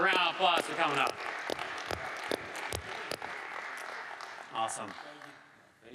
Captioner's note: audience applauding